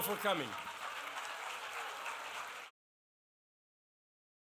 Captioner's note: applause